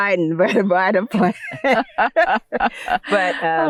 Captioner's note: laughing